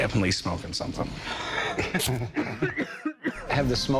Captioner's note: laughter